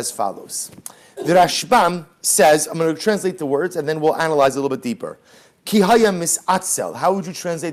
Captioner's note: Hebrew